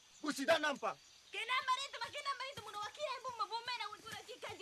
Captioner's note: shouting in native language